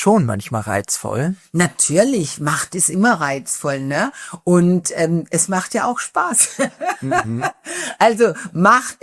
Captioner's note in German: gelächter